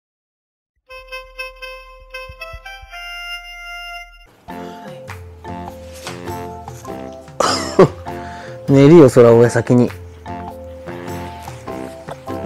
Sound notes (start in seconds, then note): 7.4 laughs